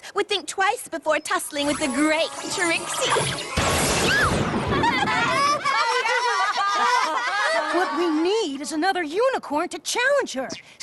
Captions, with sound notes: Would think twice before tussling with the great Trixie. [ Thunder crashes ] yah! [ Laughter ] What we need is another unicorn to challenge her,